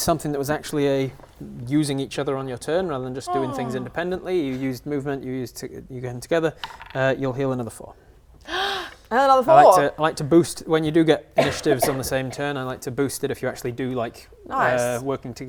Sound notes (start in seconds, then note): 8.4 gasp